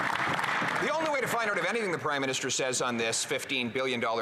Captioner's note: some Applause